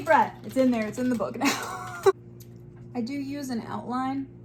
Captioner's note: laughs